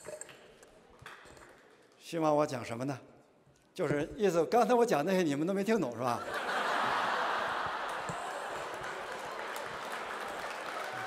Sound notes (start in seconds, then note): 1.9 speaking chinese; 6.2 laughter